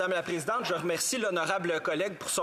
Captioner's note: speaking French